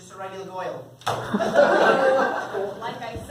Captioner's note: other weird laugh